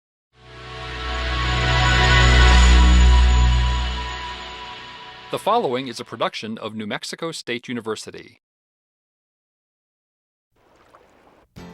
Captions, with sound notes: (cerebral music) - [Male Voice] The following is a production of New Mexico State University.